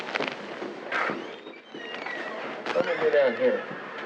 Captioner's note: door opening